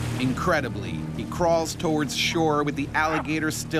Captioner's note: voiceover